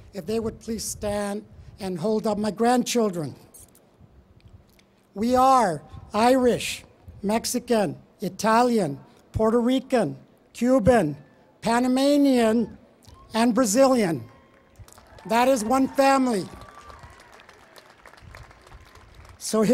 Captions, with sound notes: If they would please stand and hold up my grandchildren. We are Irish, Mexican, Italian, Puerto Rican, Cuban, Panamanian, and Brazilian. That is one family. [ Applause ]